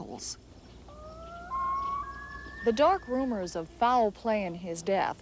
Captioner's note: loon calls